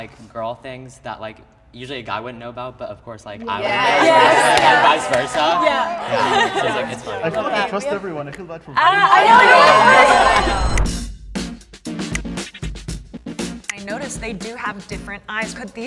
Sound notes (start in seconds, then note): 3.5 crowd agrees; 6.6 laughs; 10.3 crowd agrees; 11.8 funky hip hop music